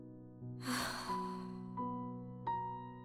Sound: Jess sighs

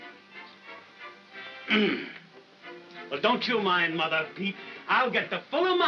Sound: throat clearing

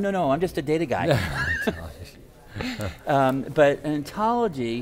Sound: laughing

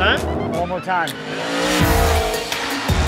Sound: car engine; rock music plays

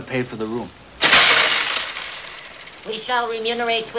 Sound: change clattering

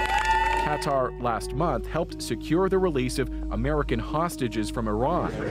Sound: cheers and Applause

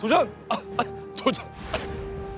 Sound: coughing

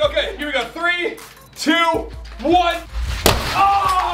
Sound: splash

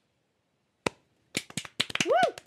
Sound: scattered applause

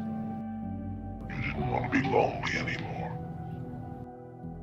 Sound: echos slowly; echos

